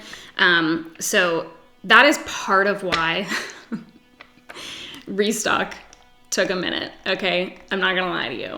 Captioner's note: giggles